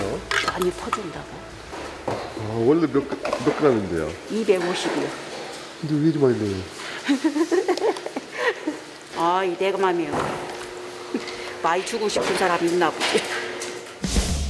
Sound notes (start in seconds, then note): 7.0 laughs; 7.0 laughs hard